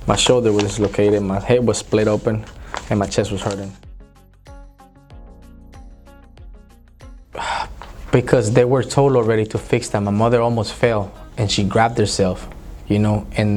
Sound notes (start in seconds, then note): 5.3 gentle music; 7.3 sighs